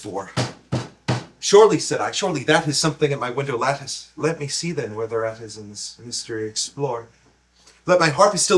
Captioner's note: knock knock knock